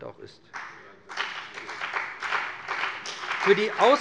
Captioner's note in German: Beifall bei dem BÜNDNIS 90/DIE GRÜNEN und der CDU